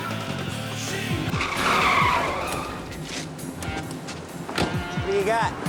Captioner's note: tires screeching